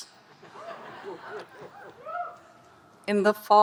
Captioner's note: audience laughing and cheering